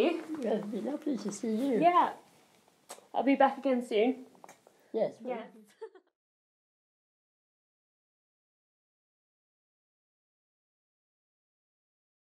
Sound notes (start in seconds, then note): 5.8 chatter fades